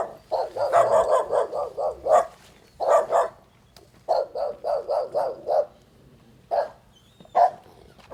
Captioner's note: dogs barking